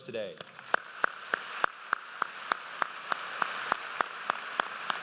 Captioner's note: audience applauds